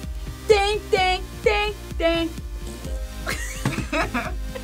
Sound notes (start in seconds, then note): 3.2 laughs